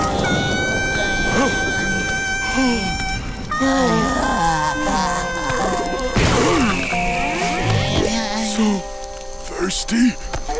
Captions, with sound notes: [panting] Soo... thirsty.